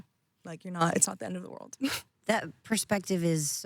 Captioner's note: laughing